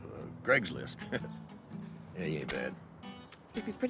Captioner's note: chuckles